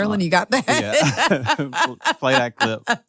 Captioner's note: laughs